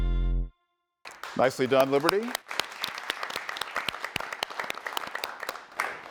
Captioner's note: audience applauds